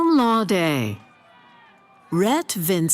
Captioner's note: cheering